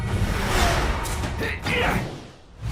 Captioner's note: grunting